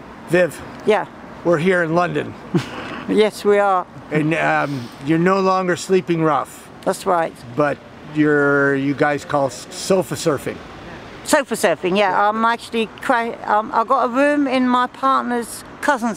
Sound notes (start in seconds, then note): 2.5 laughs